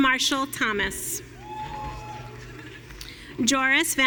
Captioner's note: audience cheering